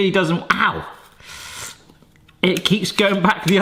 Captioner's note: winces